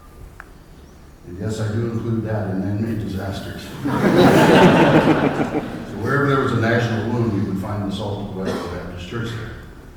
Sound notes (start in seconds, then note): 3.6 laughter